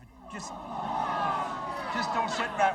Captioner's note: audience groans